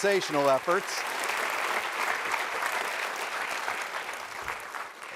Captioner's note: applause